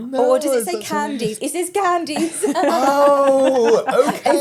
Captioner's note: laughs